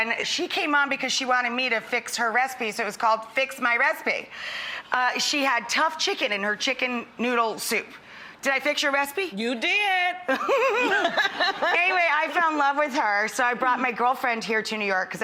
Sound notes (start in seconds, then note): 10.3 both laugh